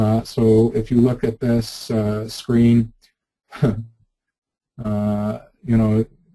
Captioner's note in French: rire